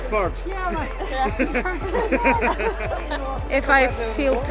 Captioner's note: laughing